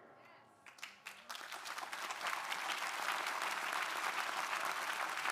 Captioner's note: crowd applauding